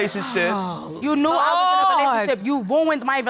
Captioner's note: exclaims